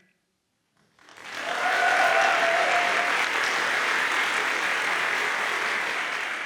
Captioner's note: audience cheers and applauds